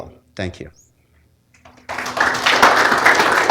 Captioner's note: applause